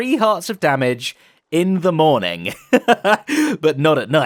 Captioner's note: laughs